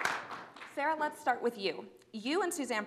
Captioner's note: applause